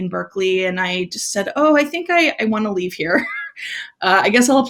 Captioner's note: laughs